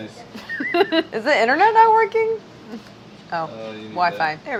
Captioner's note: laughing